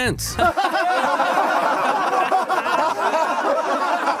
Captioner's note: crowd laughing